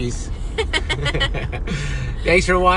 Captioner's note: both laughing